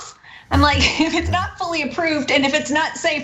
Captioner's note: laugh